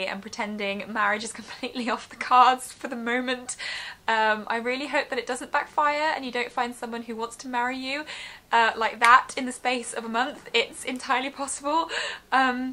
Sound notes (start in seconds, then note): 9.1 clicks